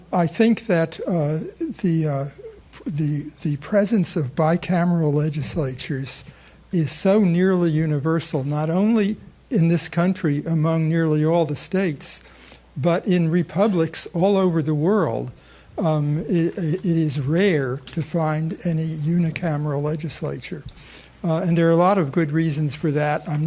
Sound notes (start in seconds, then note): none